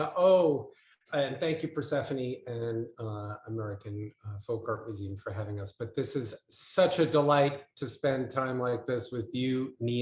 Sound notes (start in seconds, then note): none